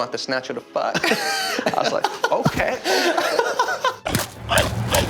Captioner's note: directors laughing